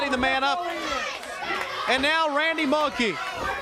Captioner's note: crowd cheering